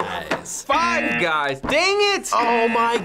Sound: buzzer rings

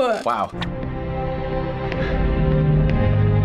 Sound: orchestral music; person gasps

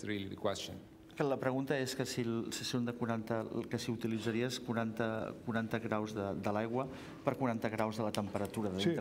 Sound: speaking catalan

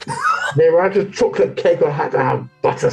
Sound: gruffly; laughing; gruffly

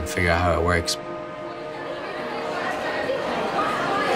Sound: chatter

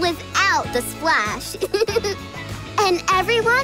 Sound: giggling

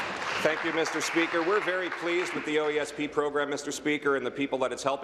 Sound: applause

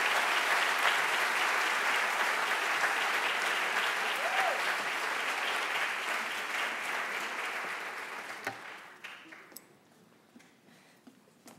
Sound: applause

